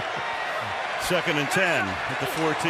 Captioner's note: laughs